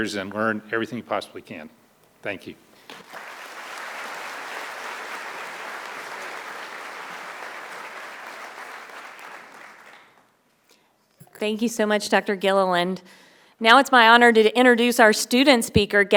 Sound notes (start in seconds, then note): 2.9 audience applauding